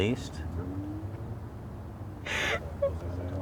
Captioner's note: sobbing